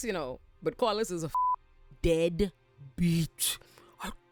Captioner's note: beep